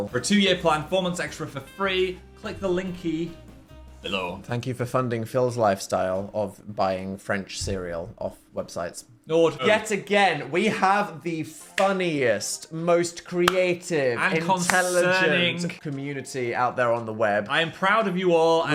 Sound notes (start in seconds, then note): none